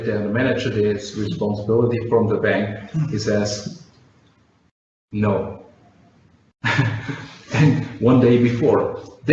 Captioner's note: chuckles